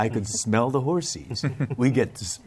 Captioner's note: laughter